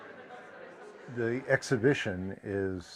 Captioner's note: crowd noises; voice off camera